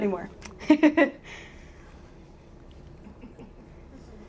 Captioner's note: chuckling